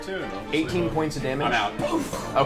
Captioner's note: pff